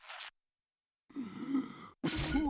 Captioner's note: inhaling